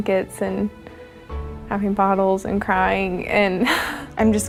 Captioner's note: chuckles